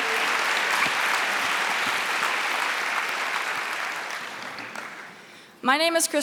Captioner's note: applause